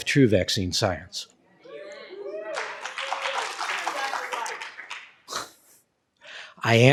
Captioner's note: cheering and Applause